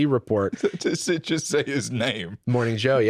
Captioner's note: laughing